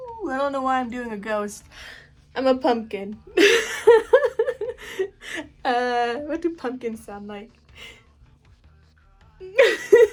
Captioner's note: laughs; laughs